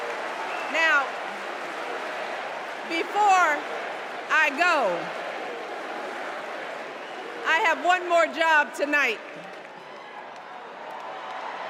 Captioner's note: cheers and applause